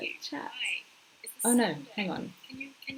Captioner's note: computer talking